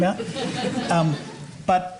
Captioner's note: laughter